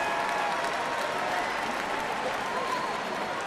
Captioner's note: cheering and applause